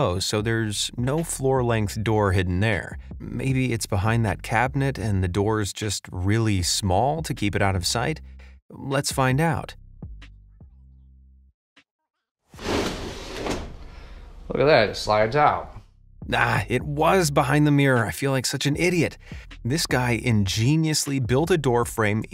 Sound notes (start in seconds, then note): 12.5 mirror scrapes